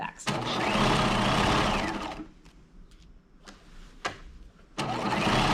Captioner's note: sewing machine whirring